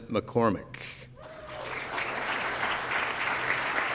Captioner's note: applause